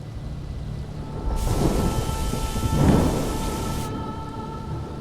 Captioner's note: storm raging; soft music